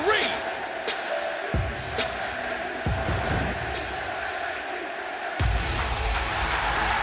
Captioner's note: crowd cheering